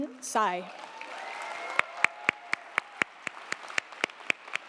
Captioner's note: audience applauding